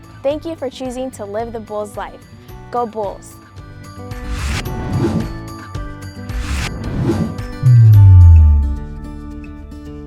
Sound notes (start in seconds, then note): 3.7 air swooshes; 3.7 calm upbeat music